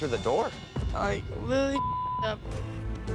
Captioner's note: beep